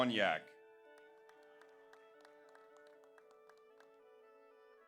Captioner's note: audience applauds